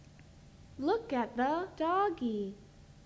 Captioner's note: voiceover